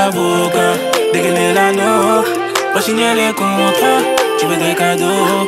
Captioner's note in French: mmh, mmh